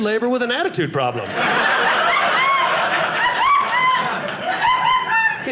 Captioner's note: audience laughing